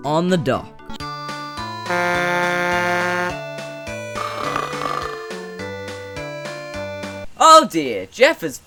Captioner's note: snoring